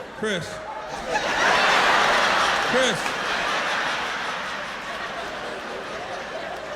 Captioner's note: laughter